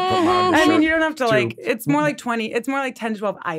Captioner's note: chuckles